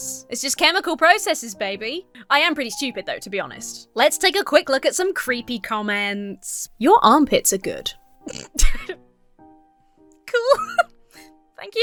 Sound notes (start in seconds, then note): 8.2 snorts; 10.4 laughs